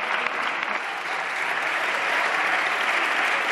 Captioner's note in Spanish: Aplausos.-Rumores